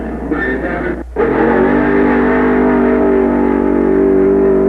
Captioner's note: engine roaring